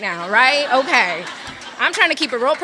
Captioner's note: audience laughs